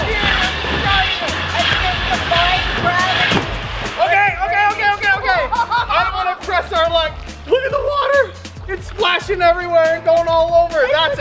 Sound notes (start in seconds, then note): 5.3 boy laughing